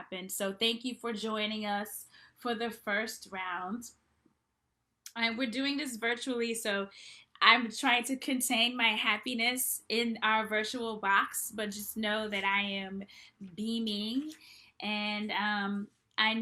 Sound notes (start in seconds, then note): none